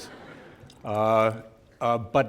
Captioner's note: laughter